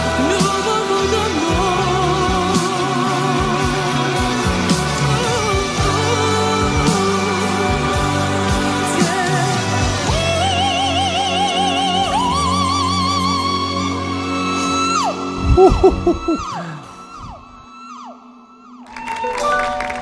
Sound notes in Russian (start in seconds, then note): 10.7 крик; 14.5 аплодисменты